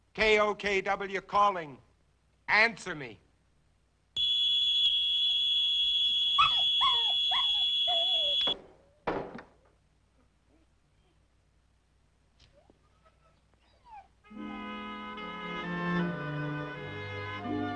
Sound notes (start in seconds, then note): 3.7 radio whining; 6.3 dog whining; 14.3 gentle orchestral music